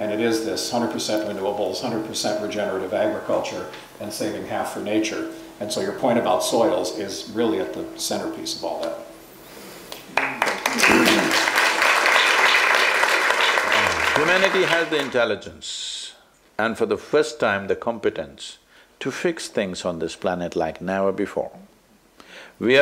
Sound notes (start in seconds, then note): 10.1 applause